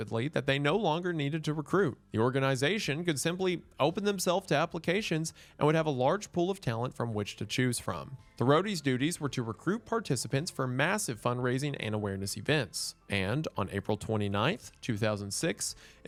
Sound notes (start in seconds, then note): none